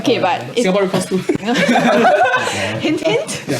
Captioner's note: laughs